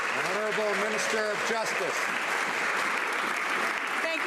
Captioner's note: some Applause